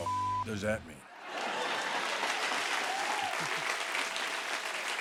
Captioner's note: cheers and applause